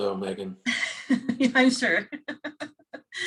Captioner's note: laughter